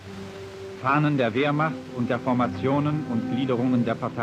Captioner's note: speaking German